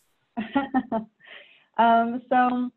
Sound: laughs

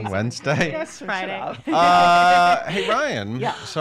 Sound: laughs

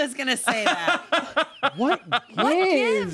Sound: laughs

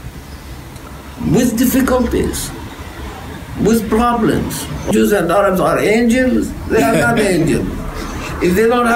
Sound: laughs

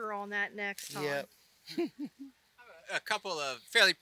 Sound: laughs

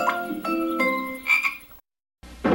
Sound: frog ribbits

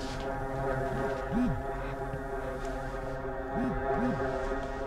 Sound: phone buzzing

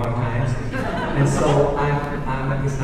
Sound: audience laughing

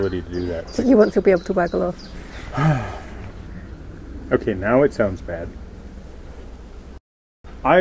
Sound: sigh

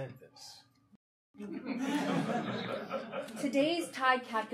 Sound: audience laughing

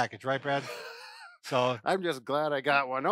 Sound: wheezes

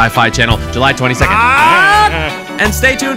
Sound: runs laughing

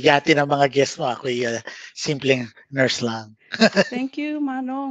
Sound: laughs

